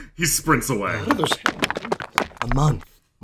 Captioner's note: clattering